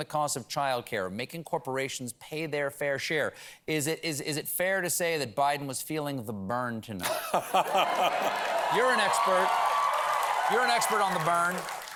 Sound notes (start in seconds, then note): 7.6 applause